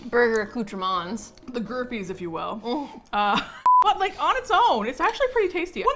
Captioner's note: laughs